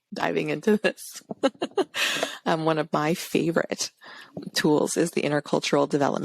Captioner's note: laughs